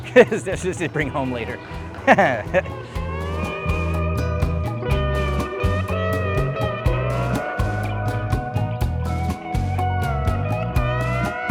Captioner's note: laughing